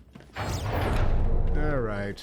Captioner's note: gunshots